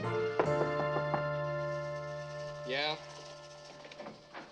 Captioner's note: Knocking